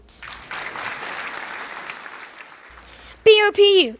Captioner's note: audience applause